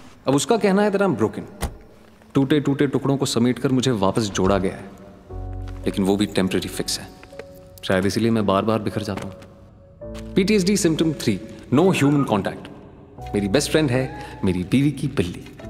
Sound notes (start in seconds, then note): 1.5 door opens, closes; 4.3 door opens